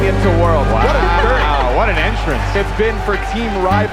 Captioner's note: chuckles